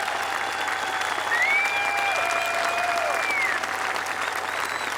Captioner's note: applause